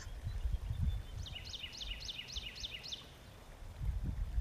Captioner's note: birds singing